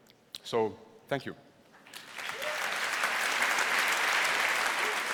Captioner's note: applause